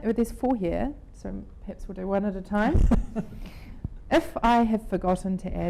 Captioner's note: laughs